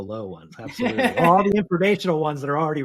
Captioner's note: laughs